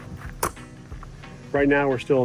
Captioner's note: door clatters